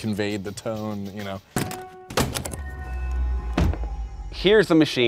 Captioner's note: cover clacking